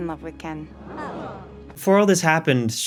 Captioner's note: crowd disappointed “aw”